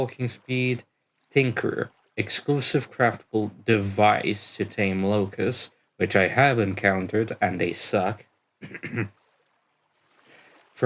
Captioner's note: clears throat